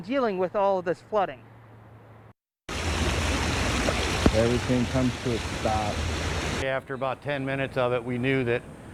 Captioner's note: 4 secs nat flood sound